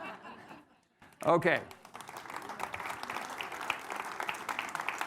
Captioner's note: audience applauding